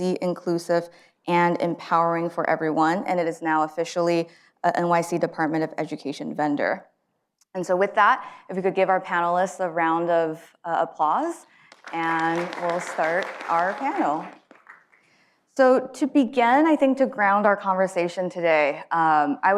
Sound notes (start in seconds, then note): 11.7 audience applauds